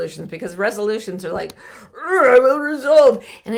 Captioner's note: groans